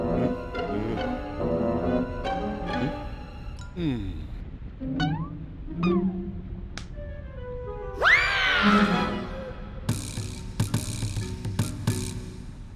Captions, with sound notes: HUH? MMM! HUH? (sighs) (slaps) AAH!